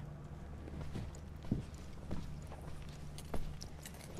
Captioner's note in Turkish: Ayak sesleri